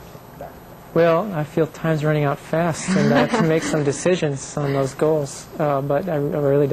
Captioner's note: laughter